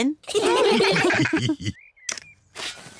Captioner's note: all laugh